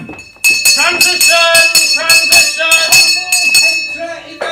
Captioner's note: bell ringing